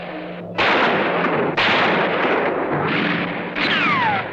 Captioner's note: guns firing